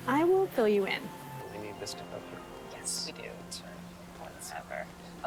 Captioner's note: indistinct conversation